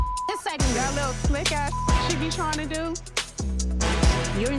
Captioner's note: beep